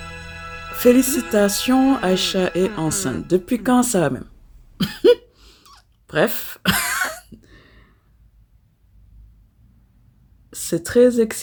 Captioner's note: laughs